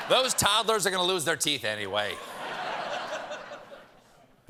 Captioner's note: laughter; laughter